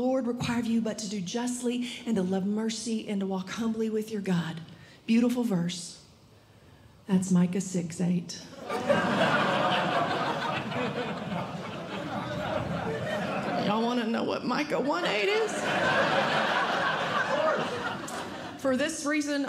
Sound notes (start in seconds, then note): 8.6 audience Laughing